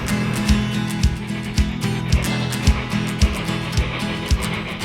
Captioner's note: train chugging